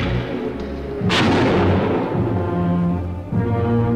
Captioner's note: gun firing